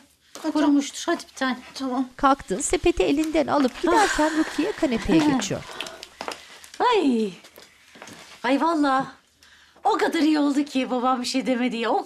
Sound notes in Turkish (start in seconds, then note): 3.6 Nefes sesi; 4.9 Gülme sesi